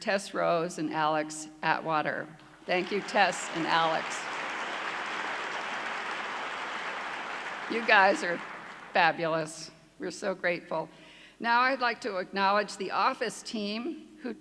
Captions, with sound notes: Tess Rose and Alex Atwater, thank you Tess and Alex. (clapping) You guys are fabulous, we're so grateful. Now I'd like to acknowledge the office team